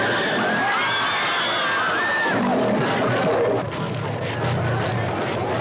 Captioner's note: audience screaming; Melina screams